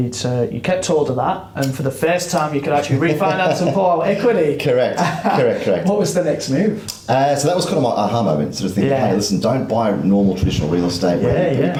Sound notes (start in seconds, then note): 4.8 laughs